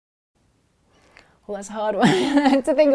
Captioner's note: laughs